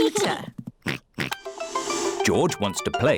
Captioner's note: oinks